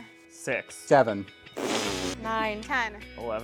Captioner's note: loud fart